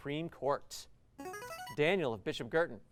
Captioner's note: buzzer